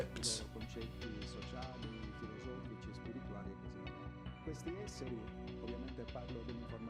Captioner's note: gentle music continues; speaking in foreign language